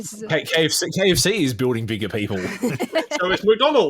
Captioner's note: laughs